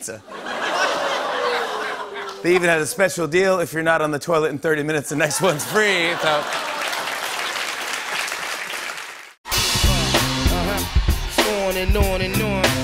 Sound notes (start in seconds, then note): 0.2 laughter; 6.1 applause